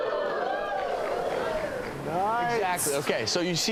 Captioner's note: audience cheering